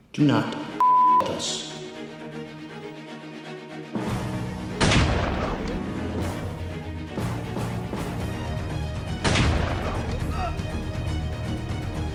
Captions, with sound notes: "Do not **** with us.” *GUNSHOT* *GUNSHOT*